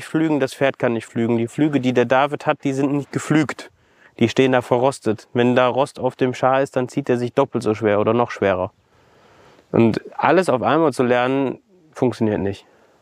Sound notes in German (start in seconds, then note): none